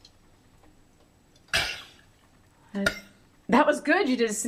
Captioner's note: coughing